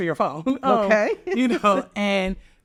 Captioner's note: laughs